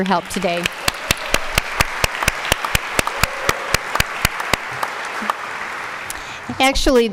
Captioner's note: applause